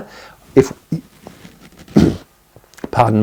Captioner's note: clears throat